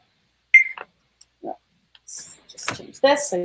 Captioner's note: beep